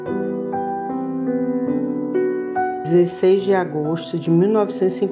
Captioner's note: Woman's voice with an accent From Bahia’s hinterland